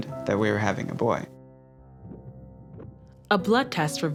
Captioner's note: baby heartbeat